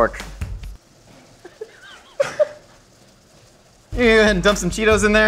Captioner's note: audient laughing